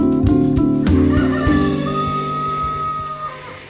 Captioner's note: rooster crowing